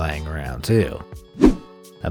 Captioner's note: air whooshing